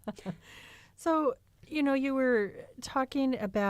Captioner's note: laughter